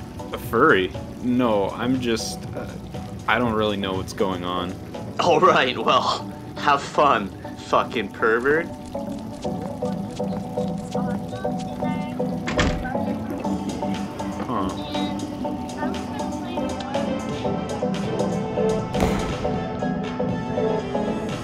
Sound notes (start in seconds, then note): 12.4 door closing; 15.4 upbeat music